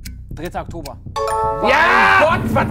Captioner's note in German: Klingeln